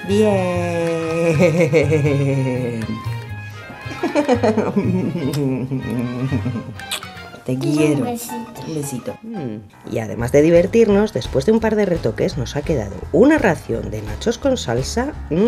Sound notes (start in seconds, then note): 0.8 laughing; 3.8 laugh; 6.7 kiss